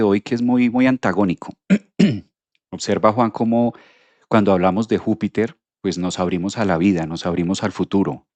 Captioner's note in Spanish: carraspeo